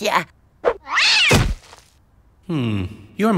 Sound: meowing

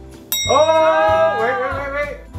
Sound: triumphant bell sound

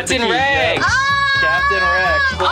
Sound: exclaiming; both exclaiming

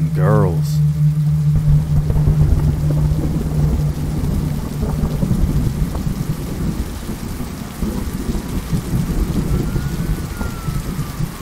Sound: sirens; thunder

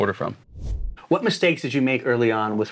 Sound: air swooshing

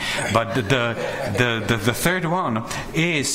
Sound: board members laugh

